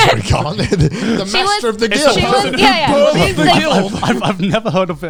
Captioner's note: all laughing